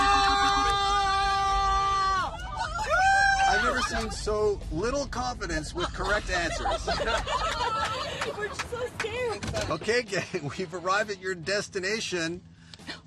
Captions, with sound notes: Ah! [Cheering] I've never seen so little confidence with correct answers. [Laughing] We're so scared. Okay, gang, we've arrived at your destination.